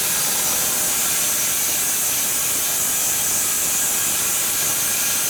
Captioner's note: sawing machine whirring continues